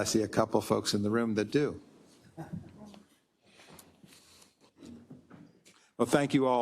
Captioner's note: laugh